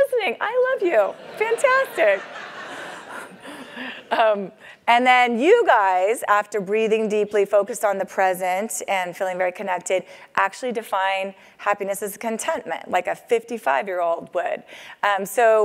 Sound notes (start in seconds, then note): 1.1 laugh